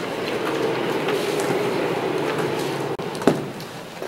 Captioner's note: skates rolling